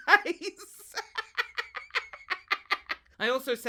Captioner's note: laughs